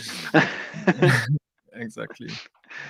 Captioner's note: laughing